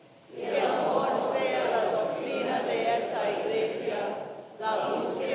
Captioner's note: congregation speaks in Spanish